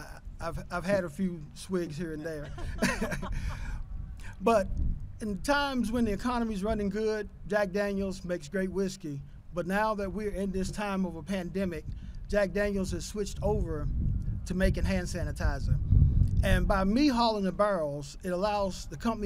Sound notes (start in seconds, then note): 2.1 laughter